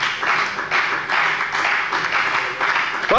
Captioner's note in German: Beifall bei der FDP